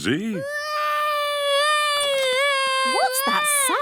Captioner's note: baby wailing